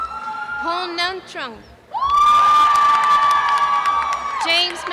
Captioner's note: cheering